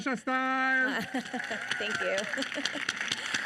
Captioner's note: audience applauding